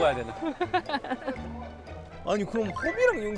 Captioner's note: kekeke